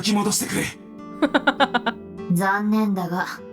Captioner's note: chuckles